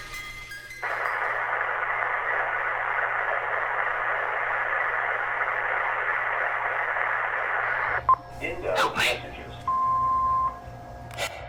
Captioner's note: answering machine playing static